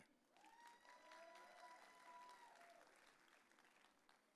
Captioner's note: audience cheering